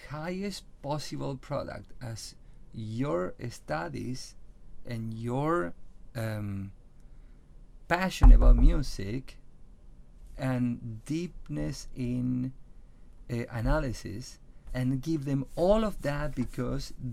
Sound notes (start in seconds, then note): 8.2 bangs on table